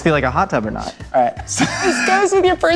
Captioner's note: laughter